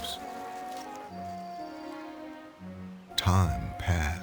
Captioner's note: leaves rustling; insects buzzing